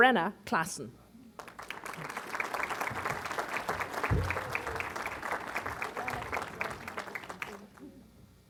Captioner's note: applause